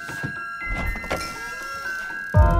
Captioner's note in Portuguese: porta rangindo; música de suspense